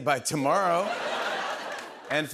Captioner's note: laughter